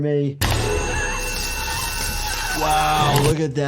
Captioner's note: laser roars; Olivia shrieks